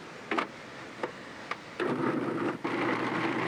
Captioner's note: food processor churning